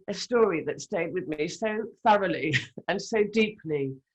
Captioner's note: chuckles